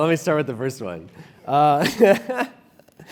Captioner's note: laugh